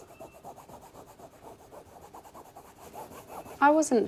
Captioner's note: object Scratching